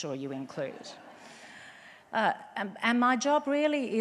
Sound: audience laughs

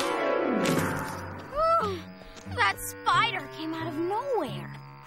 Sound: groans

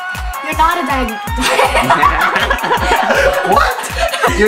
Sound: laughs

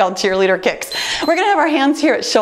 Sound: timer beeps

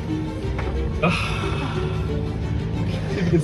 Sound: Cooper sighs

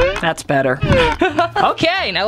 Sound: laughing

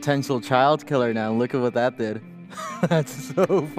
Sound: laughs

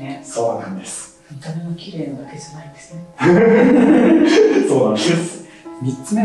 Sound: laughs

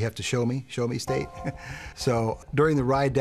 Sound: laughs

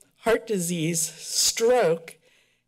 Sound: none

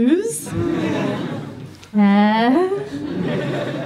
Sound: audience laughs

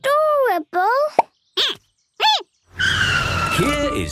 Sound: squeaking

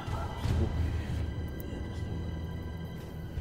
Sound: murmuring

